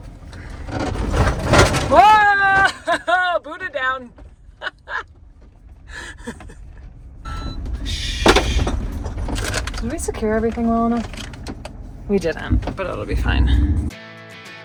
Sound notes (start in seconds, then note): 5.9 laughing; 14.4 upbeat music